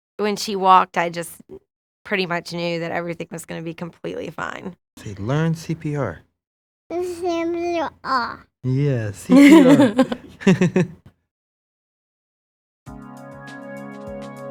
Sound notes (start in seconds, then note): 9.2 both chuckle